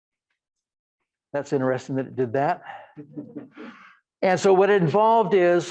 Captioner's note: audience laughing